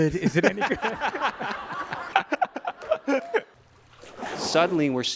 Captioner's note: audience laughing